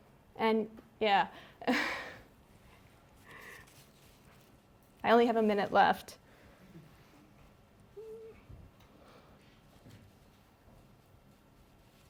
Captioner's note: pause